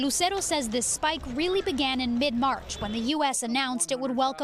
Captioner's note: speaking in foreign language